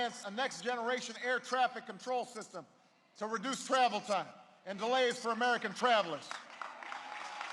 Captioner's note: applause